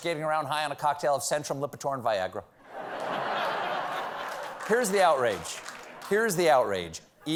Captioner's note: laughter